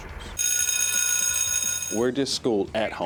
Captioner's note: bell